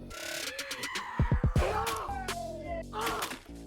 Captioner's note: wet stab